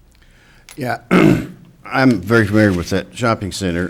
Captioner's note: man clears throat